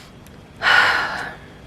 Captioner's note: sigh